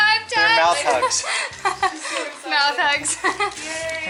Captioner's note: laughter